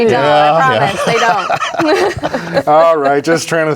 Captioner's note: laughing